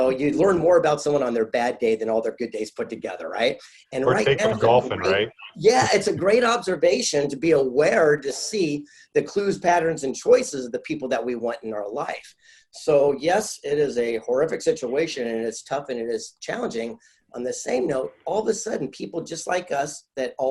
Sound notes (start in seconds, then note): 4.0 laughing